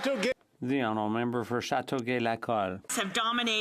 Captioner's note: some Applause